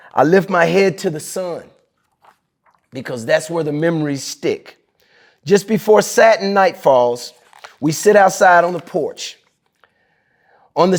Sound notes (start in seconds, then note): 1.8 pages rustling